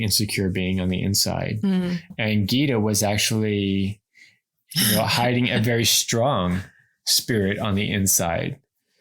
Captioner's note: laughs